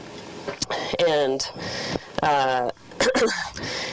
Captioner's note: coughs